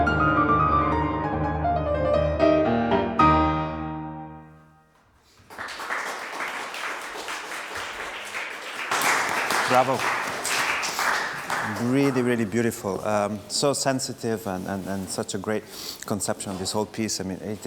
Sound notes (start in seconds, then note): 7.5 audience Applause